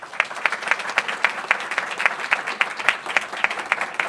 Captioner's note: applause